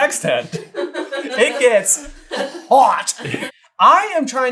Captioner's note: laughter